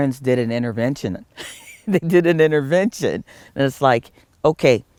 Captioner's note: laugh